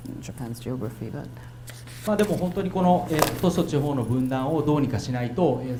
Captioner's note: speaking foreign language